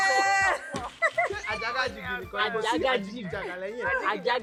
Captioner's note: laughs